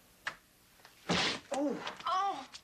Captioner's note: bag thuds; Dan grunts